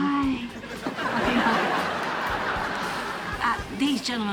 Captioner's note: audience laughing